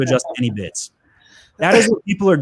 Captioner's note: laughs; chuckles